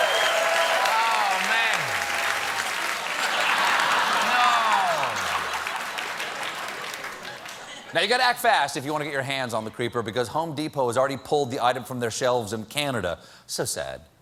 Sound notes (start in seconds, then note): 0.0 cheers and applause; 3.2 laughter